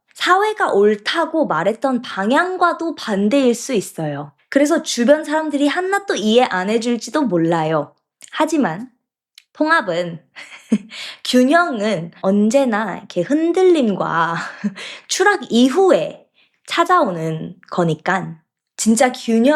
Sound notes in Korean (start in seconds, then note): 10.3 웃음